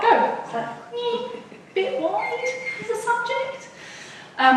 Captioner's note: whines